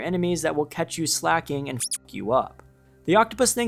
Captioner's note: beep